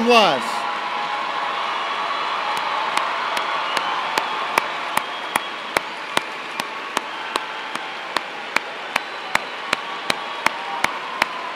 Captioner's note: applause